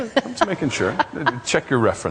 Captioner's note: laughs